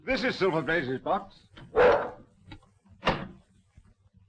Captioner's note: dog barking